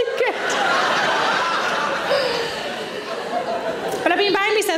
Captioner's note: audience laughs